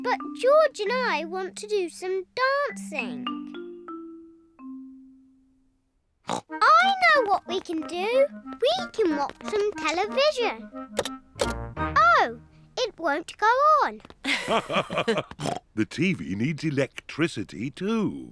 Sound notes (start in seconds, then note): 6.2 snorts; 14.2 both laugh